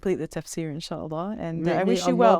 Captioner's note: speaking Arabic